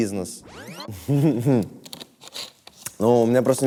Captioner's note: laughs